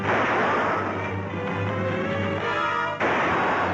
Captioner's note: guns firing